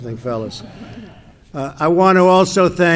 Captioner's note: laughter